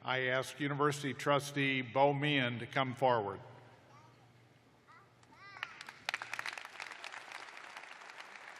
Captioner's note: applause